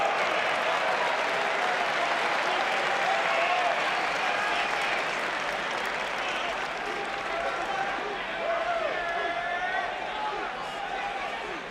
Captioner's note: crowd chatter